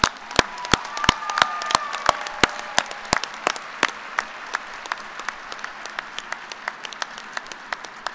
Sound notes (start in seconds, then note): 4.2 applause